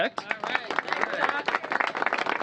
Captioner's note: applause